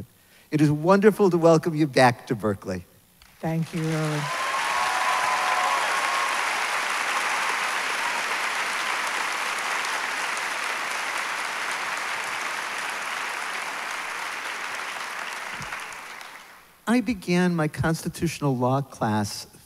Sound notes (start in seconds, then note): 4.6 applause